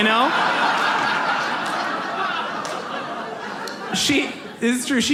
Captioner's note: audience laughs